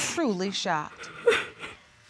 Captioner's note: sobbing